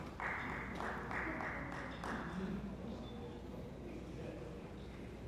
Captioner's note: attendees chattering